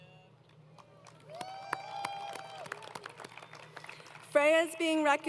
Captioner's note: applause